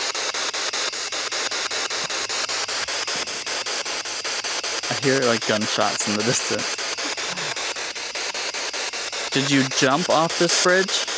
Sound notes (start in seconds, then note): 7.0 chuckles